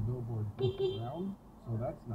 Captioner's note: beep Beep